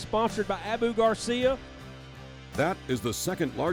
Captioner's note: voiceover